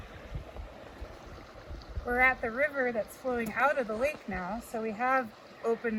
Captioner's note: water rushing